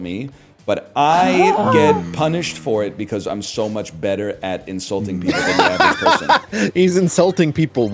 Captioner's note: bursts into a laughs